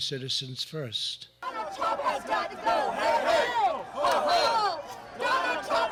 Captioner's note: people chanting